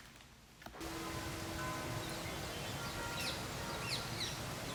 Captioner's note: bells tolling